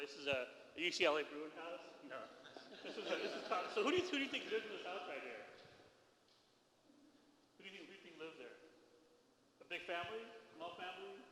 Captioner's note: foreign language